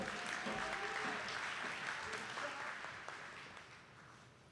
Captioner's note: attendees clapping